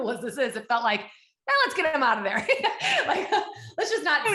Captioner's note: laughs